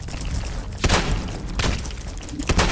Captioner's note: blam!; blam!